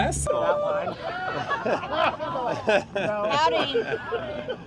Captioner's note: passing kayakers shout and laugh